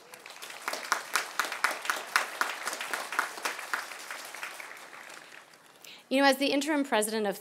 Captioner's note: applause